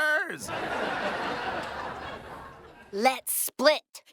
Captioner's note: audience laughing